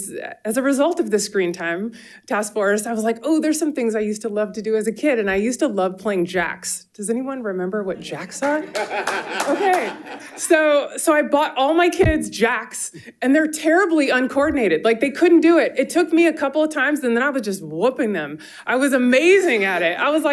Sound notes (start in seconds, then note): 8.4 audience applauding; 8.6 audience laughing